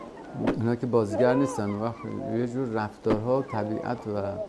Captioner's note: tool thumping